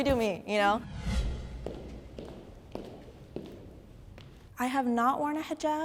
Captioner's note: footsteps approaching